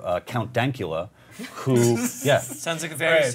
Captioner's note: laughter